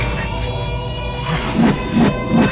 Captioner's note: moaning